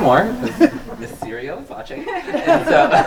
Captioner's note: group laughs; laughs